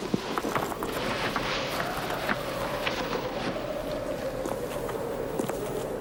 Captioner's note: whistling wind; footsteps